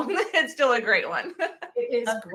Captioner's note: laughs